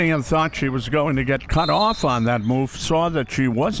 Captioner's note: referee blows whistle